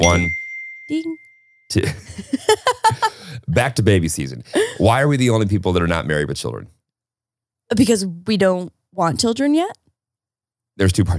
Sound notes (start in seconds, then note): 1.8 laughing